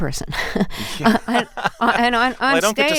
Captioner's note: laughter